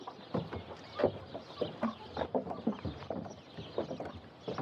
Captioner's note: footsteps